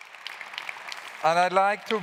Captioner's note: claps